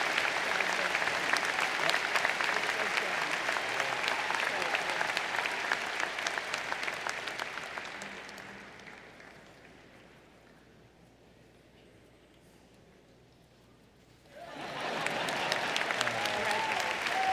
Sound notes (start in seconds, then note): 0.0 applause; 4.7 applause; 4.7 laughter